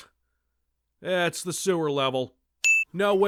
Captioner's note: ding